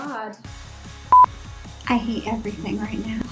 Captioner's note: tone beeps